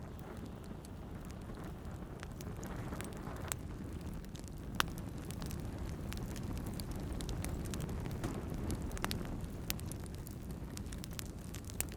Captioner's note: fire crackling